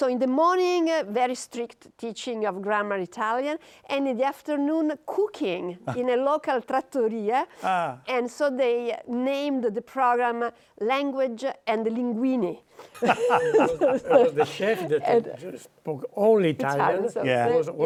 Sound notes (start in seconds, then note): 12.9 laughter